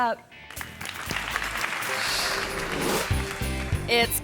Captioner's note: audience applauds